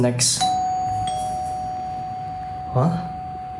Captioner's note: door bell interupts